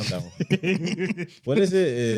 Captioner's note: laughing